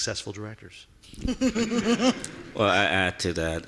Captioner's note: laughing